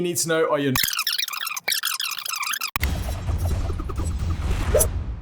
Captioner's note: tape rewinding